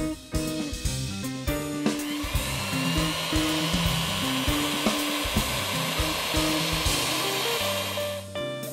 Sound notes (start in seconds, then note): 1.9 mixer whirring